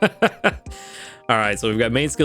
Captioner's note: laughs